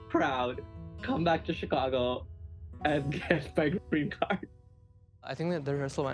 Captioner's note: laughs